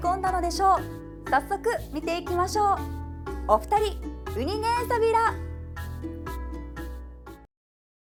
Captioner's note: in Okinawan